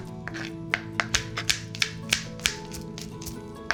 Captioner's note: knife clacking